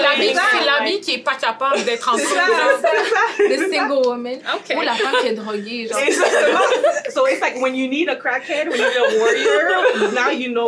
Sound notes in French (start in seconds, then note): 1.7 rires; 6.6 rires